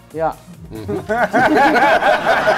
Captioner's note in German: Gelächter